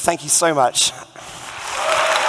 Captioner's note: cheering and Applause